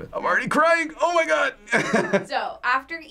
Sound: laughs

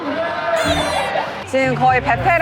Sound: boing

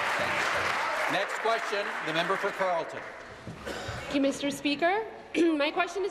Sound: applause

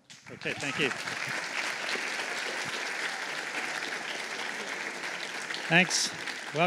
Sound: applause

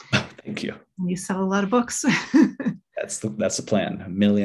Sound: chuckles

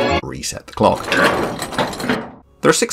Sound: machinery clunks

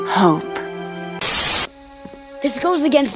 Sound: Static

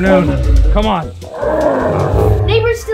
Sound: roaring

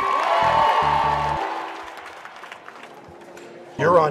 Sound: cheering

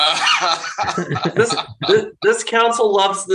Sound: laughter

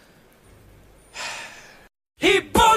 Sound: sigh

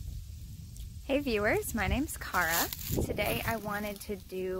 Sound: leaves crunch underfoot throughout video

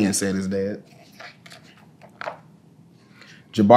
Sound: pages rustling

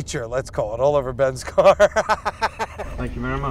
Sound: laughs

